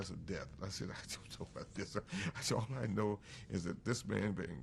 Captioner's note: laughs